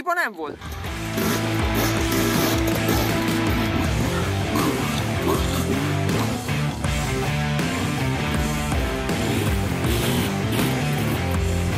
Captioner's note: music and dirt bike sounds